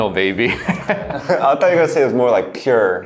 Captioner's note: laughing